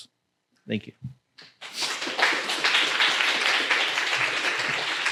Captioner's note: applause